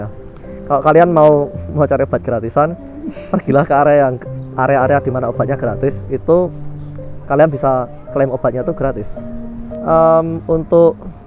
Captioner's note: chuckles